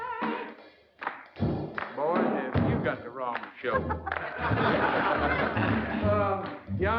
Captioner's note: laughter